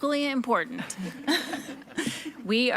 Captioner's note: participants laughing